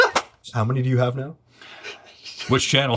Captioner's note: laughs